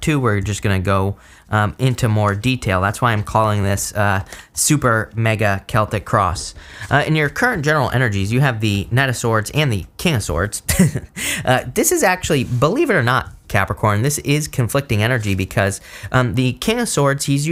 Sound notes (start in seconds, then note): 10.6 speaker chuckles